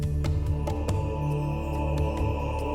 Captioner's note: men chanting; chimes